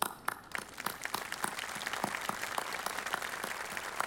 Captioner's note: audience applauding